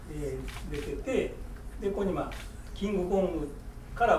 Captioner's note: speaking in foreign language; shuttering